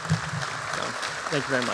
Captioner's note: applause